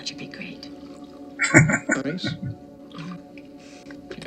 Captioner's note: chuckling